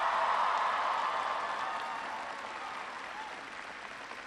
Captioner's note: applause